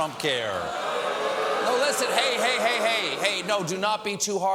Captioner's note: audience reacts